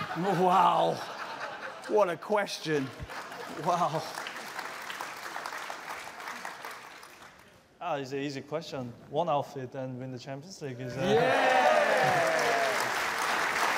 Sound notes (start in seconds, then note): 4.4 applause; 11.0 cheers and applause